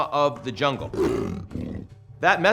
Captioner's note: jaguar snarls